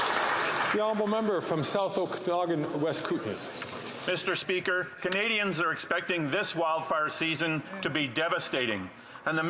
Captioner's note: some Applause